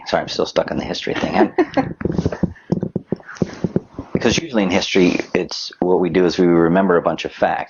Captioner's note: laughs